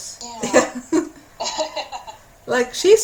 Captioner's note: laughter